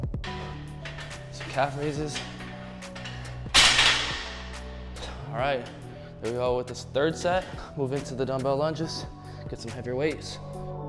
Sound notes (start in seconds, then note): 0.1 metal clanking; 3.0 hiphop music; 3.8 metal banging; 10.6 hiphop music